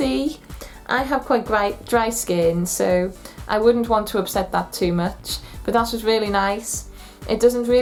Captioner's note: sniff